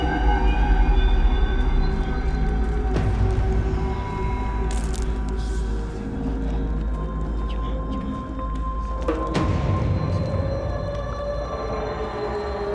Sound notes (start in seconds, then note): 5.0 people muttering softly